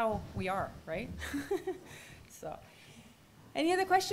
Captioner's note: laughs